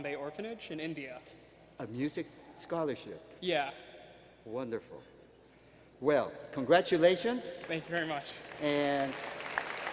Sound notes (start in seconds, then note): 7.5 applause